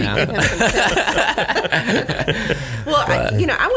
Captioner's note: laughing